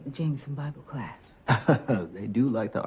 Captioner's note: chuckles